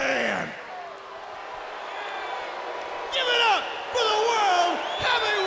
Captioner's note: crowd cheering